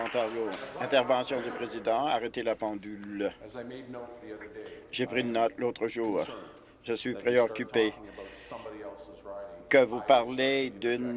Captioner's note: applause